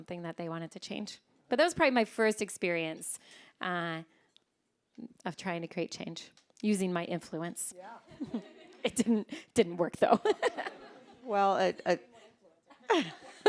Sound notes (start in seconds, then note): 10.2 all laughing; 12.6 all chuckling